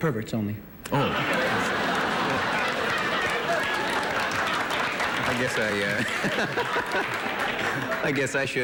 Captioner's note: laughter